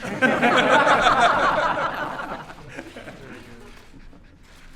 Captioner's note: laughter